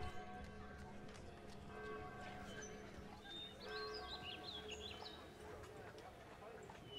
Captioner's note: bells ringing, birds chirping